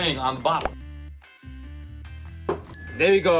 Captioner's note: pops; bell dings